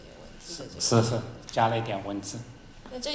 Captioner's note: Mandarin